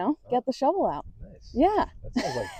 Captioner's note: laughs